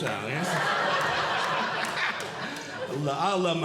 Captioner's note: audience Laughing